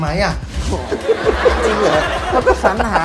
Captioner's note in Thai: หัวเราะ